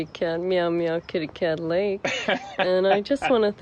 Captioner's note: laughs